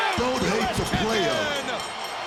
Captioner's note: bell ringing